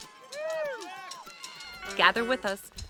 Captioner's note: crowd cheering